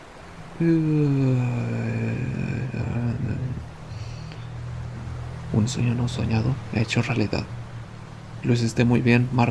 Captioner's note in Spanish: Bostezo